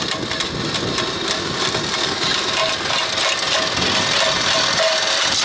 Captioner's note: machine rumbling